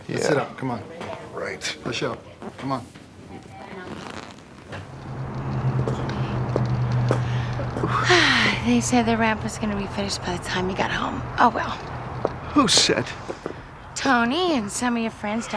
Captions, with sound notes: - Yeah. - Sit up, come on. - Right. - Push up. Come on. (traffic humming) (birds chirping) - (sighs) They said the ramp was gonna be finished by the time you got home. Oh, well. - Who said? - Tony and some of your friends